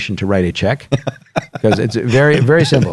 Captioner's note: laughs